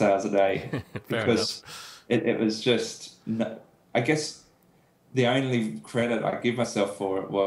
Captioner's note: laughs